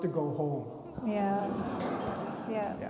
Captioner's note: attendees laughing